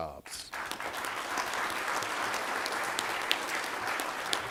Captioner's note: applause